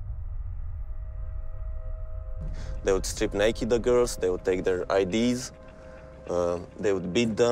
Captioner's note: speaking a Language Other Than English